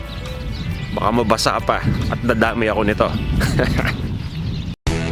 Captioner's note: chuckles